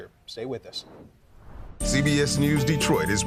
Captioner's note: logo swooshes